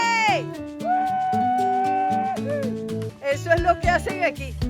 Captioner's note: screams